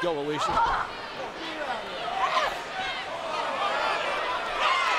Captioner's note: crowd clamoring